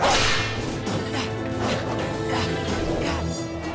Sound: grunting

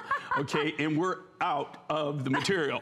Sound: laughter; laughter

